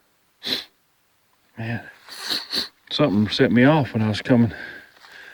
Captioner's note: sniffing